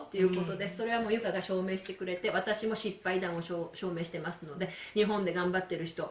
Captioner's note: using 2 languages